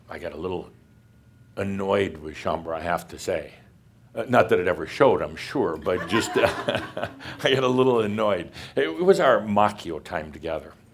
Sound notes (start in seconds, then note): 5.9 some laughter